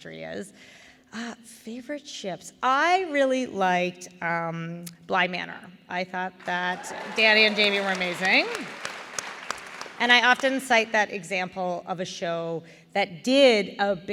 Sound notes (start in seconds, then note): 6.4 applause